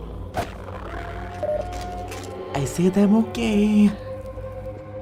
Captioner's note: dreadful moaning continues